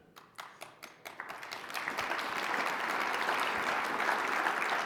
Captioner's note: people applauding